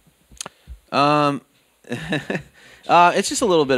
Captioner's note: laughs